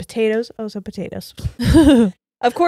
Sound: laughs

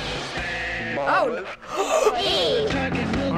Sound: gasps

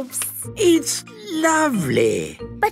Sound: none

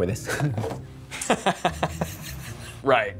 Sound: laughs

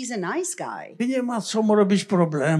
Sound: foreign language

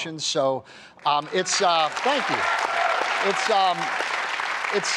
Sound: applause

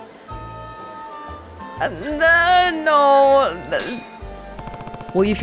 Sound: stammers

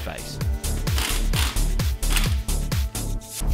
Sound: air-powered rattle gun

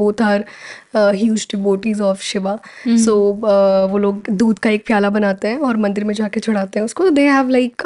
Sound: speakin in Hindi

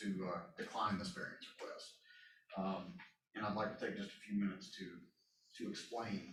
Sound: none

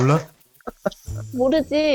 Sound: laughter

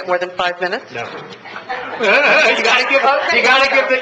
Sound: laughs

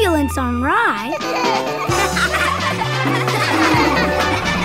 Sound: laughing

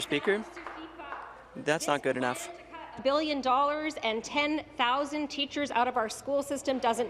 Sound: applause; speaking in French

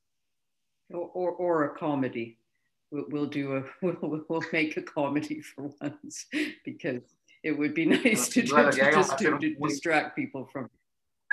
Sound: laughs

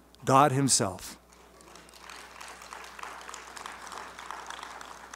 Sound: clapping

